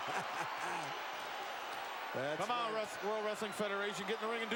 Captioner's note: laugh